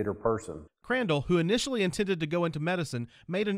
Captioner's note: voiceover